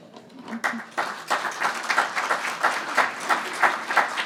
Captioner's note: audience clapping